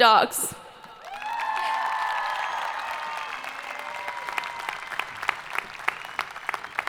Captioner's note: people cheering; hands clapping